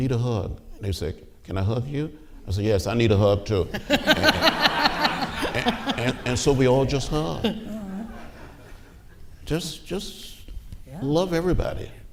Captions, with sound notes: They say, "Can I hug you?" I say, "Yes, I need a hug too." (laughing) And so we all just hug. Just love everybody.